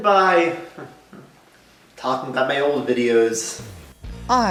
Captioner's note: chuckles lightly